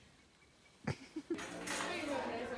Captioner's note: laughing